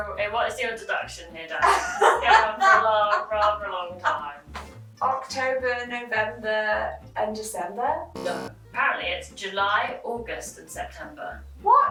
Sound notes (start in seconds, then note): 1.6 laughing